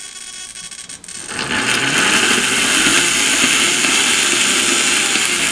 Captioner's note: motor running